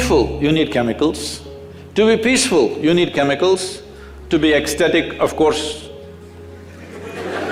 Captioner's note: laughter